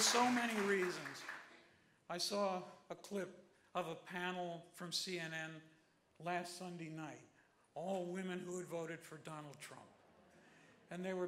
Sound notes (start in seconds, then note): 0.0 applause